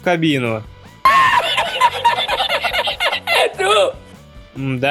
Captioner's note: laughter